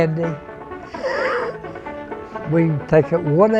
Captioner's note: laughs